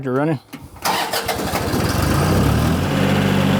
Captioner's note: truck Engine Revs